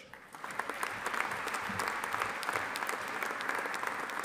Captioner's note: audience applauding